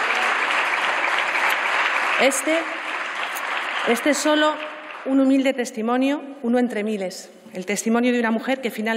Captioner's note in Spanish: Aplausos